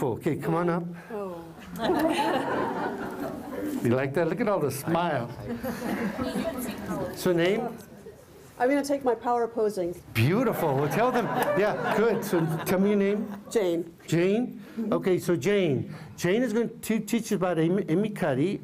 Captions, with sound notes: Okay, come on up. [ Laughter ] You like that? Look at all the smiles. So, name? >> I'm going to take my power posing. >> Beautiful. Good. So tell me your name. >> Jane. >> Jane? >> Mm-hmm. >> Okay. So Jane. Jane has been teaching about Amy Cuddy.